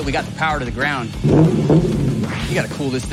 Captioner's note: engine revs